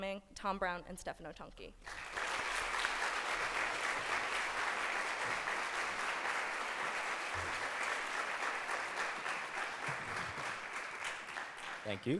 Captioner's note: applause